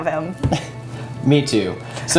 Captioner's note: chuckles